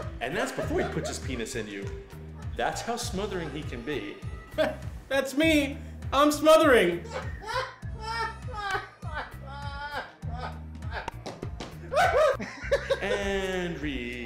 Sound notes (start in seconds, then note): 7.0 man laughing